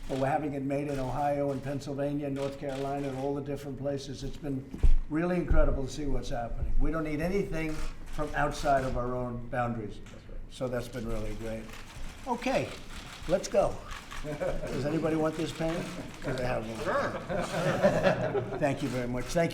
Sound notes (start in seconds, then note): 14.2 laughter